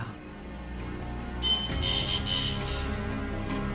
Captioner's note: animal screeches